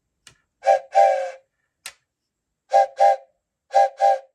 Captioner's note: train horn blows